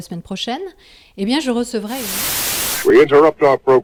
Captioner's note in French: bruit statique